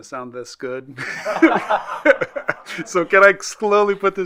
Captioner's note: group laughing